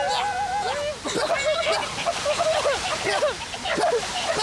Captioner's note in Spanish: Todos tosiendo